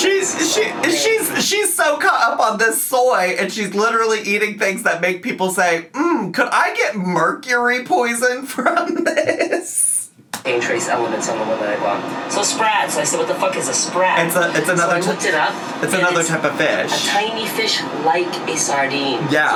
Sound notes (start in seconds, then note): 8.5 laughs